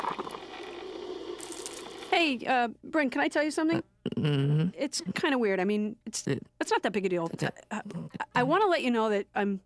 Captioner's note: none